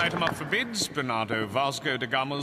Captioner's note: gavel bangs